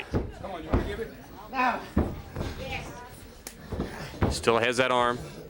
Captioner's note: crowd chatter